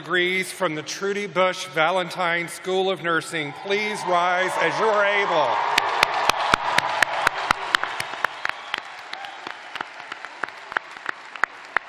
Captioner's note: cheers and applause